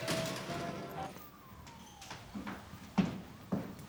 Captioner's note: sirens